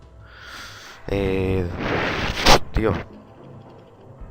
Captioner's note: ear creaking